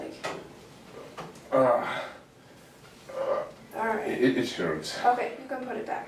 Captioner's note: groaning